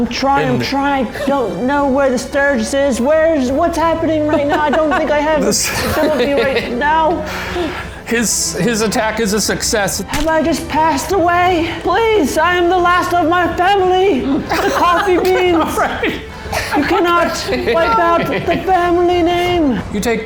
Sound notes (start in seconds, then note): 4.1 laughing disrupts his speaking